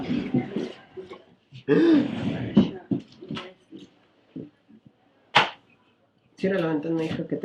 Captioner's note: gasps